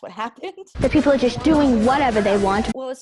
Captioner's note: kid voice